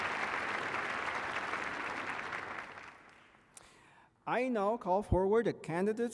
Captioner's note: applause